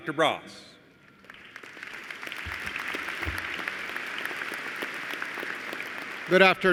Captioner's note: applause